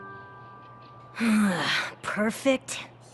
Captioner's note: sigh